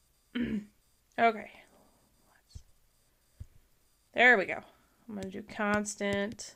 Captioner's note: clears throat